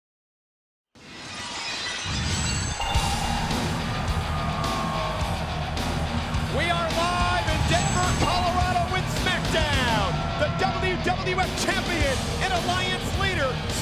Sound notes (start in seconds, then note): 1.2 glass shatters; 2.5 upbeat music; 2.9 audience cheers